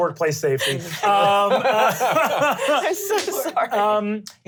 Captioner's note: laughing